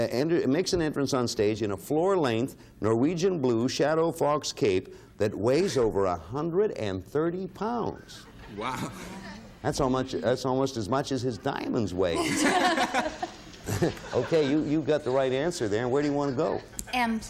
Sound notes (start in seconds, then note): 12.1 laughter